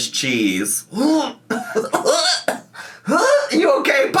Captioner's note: gags